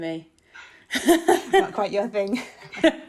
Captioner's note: laughing